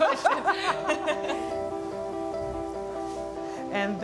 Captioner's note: laughs